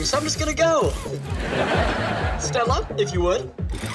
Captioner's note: audience laughs